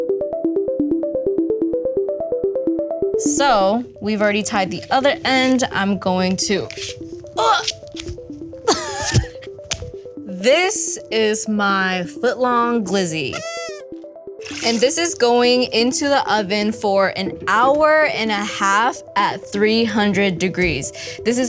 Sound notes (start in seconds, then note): 0.2 melodic electronic music; 8.6 laughs